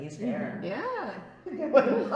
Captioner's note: laughter